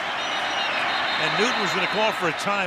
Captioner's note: whistle blows